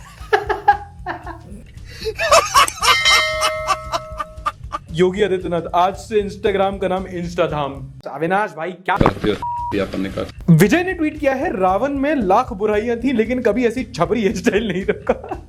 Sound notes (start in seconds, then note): 0.1 laughter; 9.3 beep